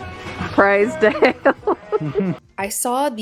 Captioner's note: laughs